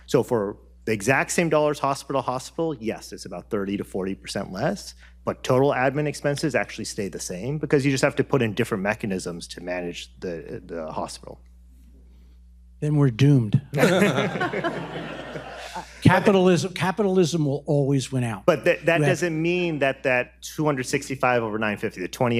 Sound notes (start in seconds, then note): 13.8 audience laughs